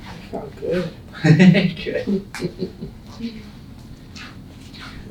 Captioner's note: laughing